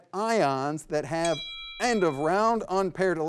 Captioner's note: bell tings